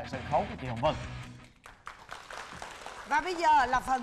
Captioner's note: applause